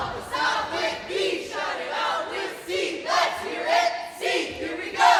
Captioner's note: cheer Team cheering